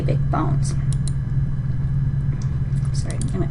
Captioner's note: mouse clicking